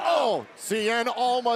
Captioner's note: cheers